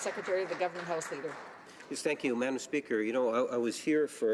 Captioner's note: some Applause